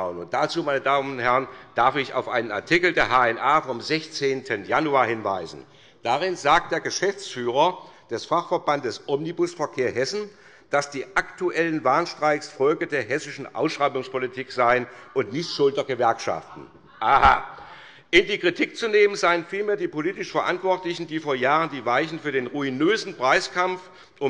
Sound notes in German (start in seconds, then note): 16.3 Zurufe der Abg. : Aha!